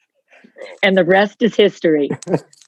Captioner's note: laughing